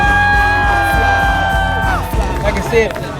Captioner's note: cheers and applause